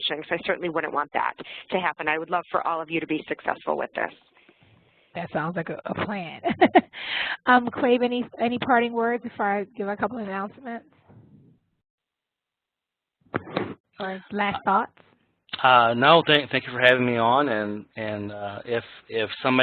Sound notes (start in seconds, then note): 6.4 laugh